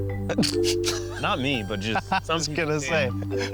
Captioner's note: burst out laughing